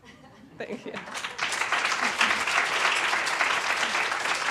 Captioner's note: applause